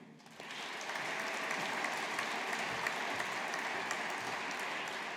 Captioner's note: audience applauding